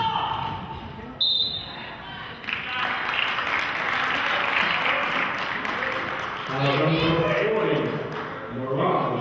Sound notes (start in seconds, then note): 1.2 whistle blows; 2.4 clapping